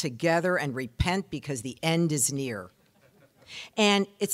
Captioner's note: audience laughing